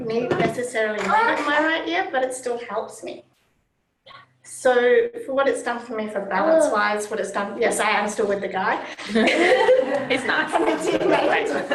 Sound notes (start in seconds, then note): 8.9 laughter